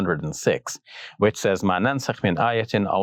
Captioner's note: speaks Arabic